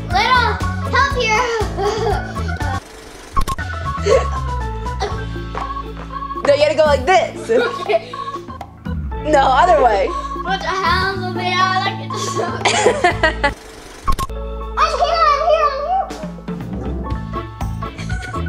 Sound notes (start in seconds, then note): 12.1 laughs